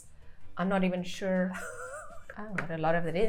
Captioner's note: chuckling